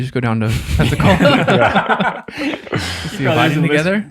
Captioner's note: group laughs